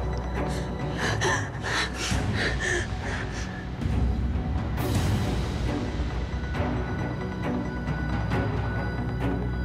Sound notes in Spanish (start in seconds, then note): 4.1 Sollozos